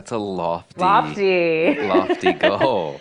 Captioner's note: laughs